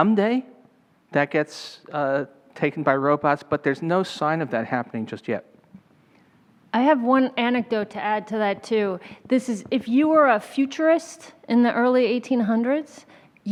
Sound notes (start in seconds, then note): none